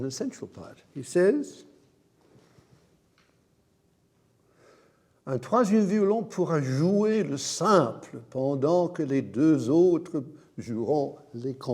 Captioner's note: speaks in a foreign language